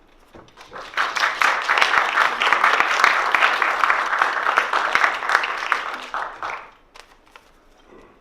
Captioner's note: applause